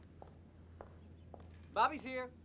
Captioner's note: footsteps tapping